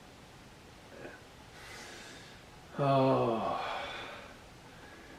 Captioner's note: sighs